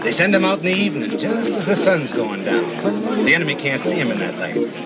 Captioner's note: laughs